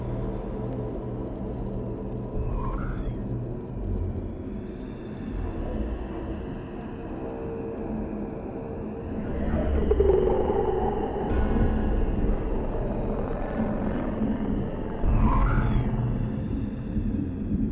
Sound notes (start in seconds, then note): 9.0 alien rumbling